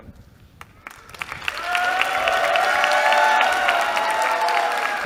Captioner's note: applause